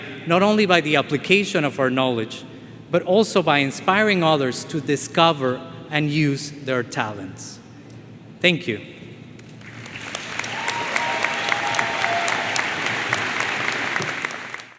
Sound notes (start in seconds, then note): 9.6 attendees cheering and applauding